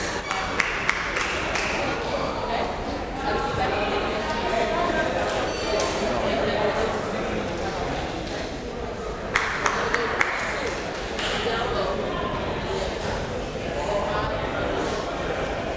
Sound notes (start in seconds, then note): 0.1 crowd member clapping; 3.6 crowd members talking; 9.3 crowd member clapping; 12.2 crowd members talking